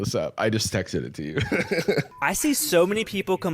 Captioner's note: laughs